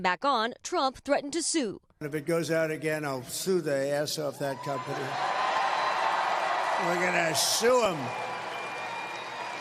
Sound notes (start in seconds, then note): 4.2 cheers